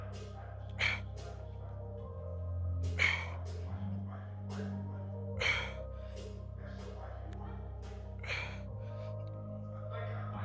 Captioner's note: coughing